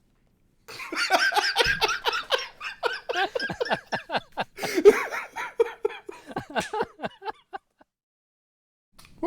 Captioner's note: laughter